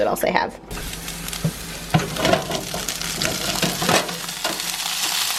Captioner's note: peppers sizzling